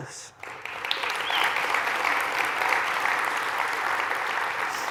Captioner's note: applause